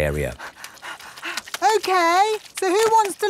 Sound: panting

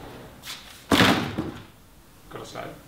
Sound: thuds

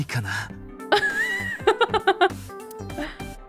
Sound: chuckles

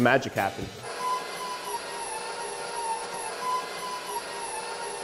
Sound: mixer squeaking

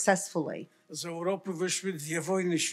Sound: foreign language

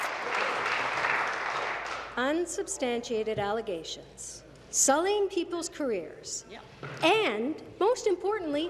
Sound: applause

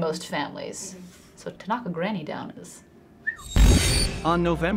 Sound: whistles

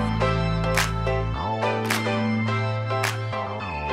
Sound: applause in rhythm

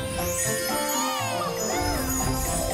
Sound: cheering

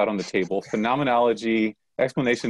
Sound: chuckles

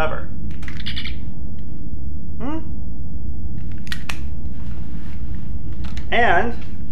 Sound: communicator chirps

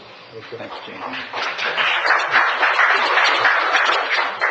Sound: audience applauding

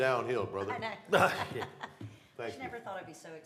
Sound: laughter

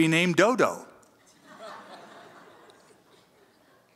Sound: audience chuckles

